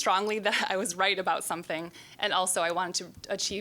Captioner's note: chuckling